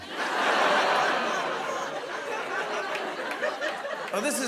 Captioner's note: laughter